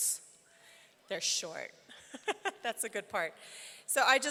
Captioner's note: laughs